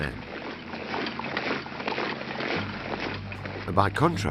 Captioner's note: footsteps thumping